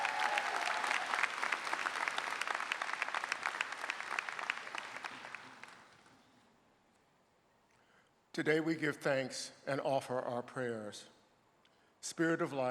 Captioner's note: applause